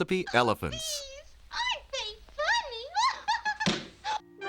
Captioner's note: laughs